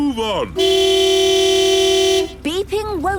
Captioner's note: honking